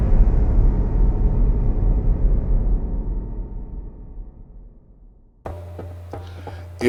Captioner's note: dramatic boom